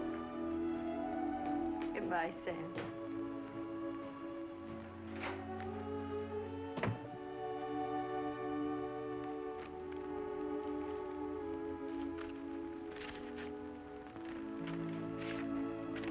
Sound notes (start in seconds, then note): 6.7 door closes